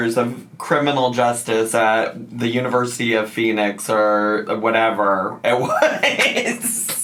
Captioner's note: laughs